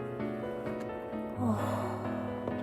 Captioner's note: deep sigh